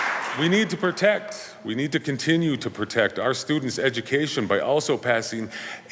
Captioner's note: applause